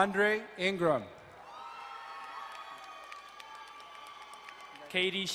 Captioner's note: crowd cheering and applauding